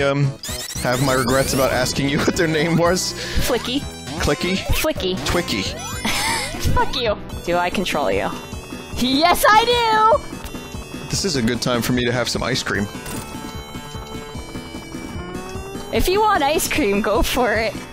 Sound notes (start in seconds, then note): 5.8 laughs